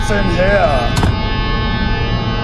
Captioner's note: sinister music; door close